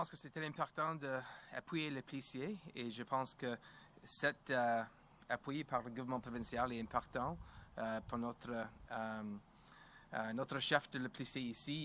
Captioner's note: speaks French